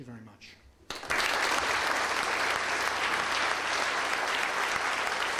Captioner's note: audience applauds